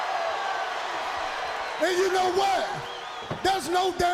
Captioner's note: crowd cheering